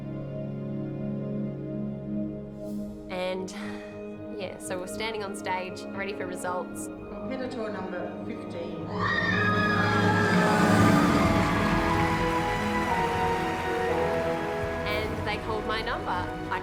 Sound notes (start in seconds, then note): 0.2 soft orchestral music; 8.9 audience whooping and applauding; 12.2 dramatic orchestral music